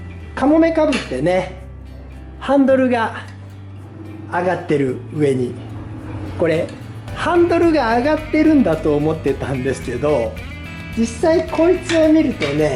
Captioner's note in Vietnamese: cười